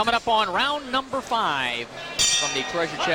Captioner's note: bell rings